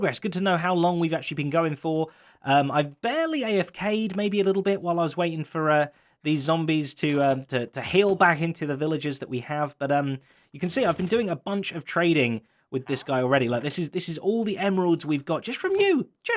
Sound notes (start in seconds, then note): none